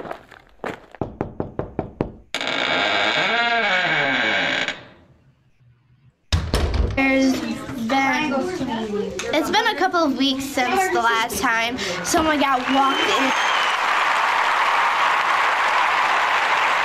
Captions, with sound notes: (door knocking) (door squeaking) It's been a couple of weeks since the last time someone got walked in... (applauding)